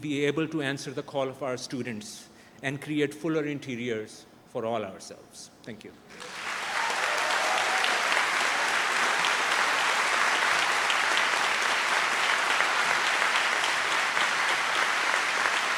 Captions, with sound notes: we able to answer the call for our students and create fuller interiors for all ourselves. Thank you. (audience applauds)